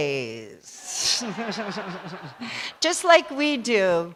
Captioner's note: laughter